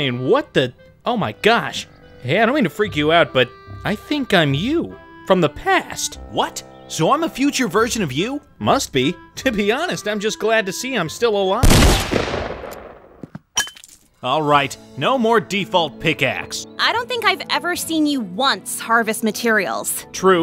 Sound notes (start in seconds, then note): 11.6 gun fires